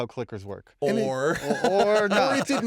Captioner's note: laughter